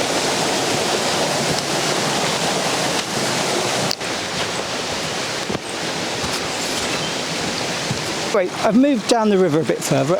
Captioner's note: waterfall sounds